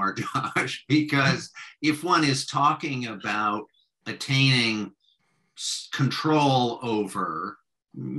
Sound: laughs

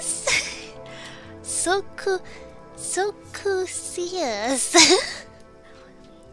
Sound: laughs

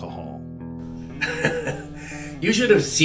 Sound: laughing

